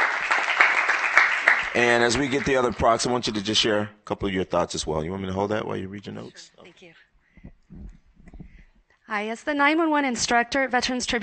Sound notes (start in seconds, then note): 4.1 applause